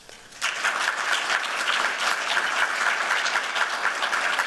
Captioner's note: applause